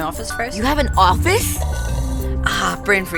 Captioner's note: slurps loudly